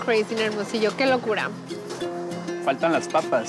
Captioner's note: speaking Spanish